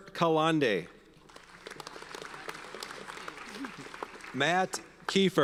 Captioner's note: audience applauds